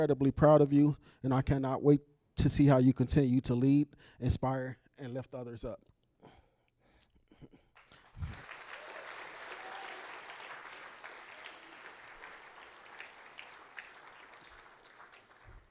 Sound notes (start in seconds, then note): 11.8 applause